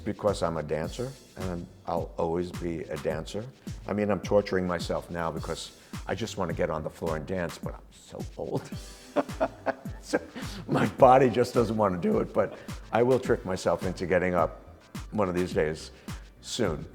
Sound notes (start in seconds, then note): 8.6 both laugh